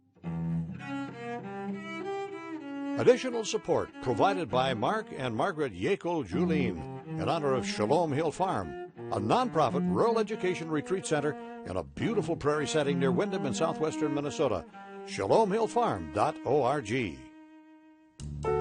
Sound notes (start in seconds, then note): 0.2 elegant violin music; 3.1 voiceover; 18.3 lively jazz music